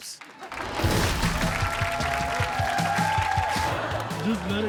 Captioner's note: cheering